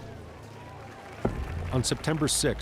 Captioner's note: crowd applauds